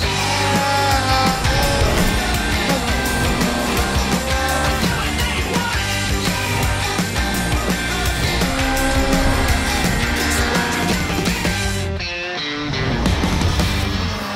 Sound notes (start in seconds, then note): 0.5 vocalizing; 1.4 engines revving; 2.3 vocalizing; 6.1 vocalizing